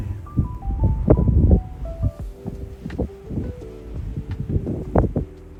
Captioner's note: wind